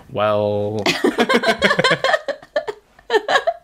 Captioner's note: laughs